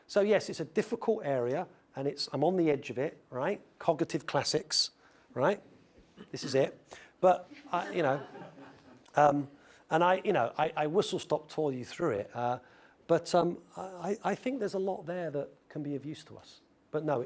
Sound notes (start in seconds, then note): 7.6 laugh